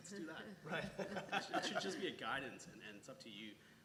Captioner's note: laugh